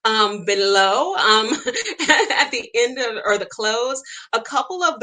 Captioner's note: laughs